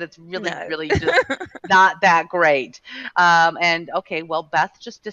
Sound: laughing

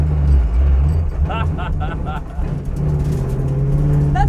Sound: laughing

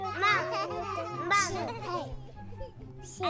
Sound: toddler sounds

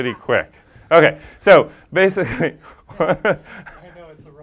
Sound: laugh

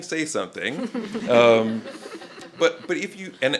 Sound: laughter

